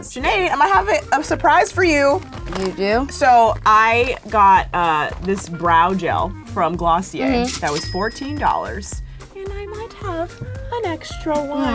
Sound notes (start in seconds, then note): 7.2 cash sound